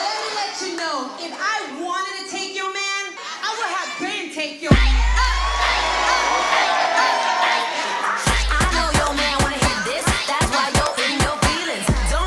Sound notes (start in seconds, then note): 0.0 crowd cheering; 4.7 crowd cheering